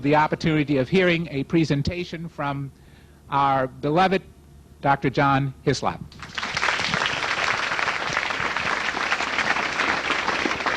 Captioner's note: applause